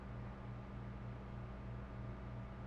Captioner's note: none